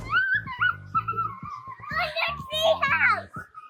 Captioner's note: kids howling